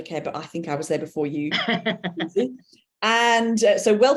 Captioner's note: chuckling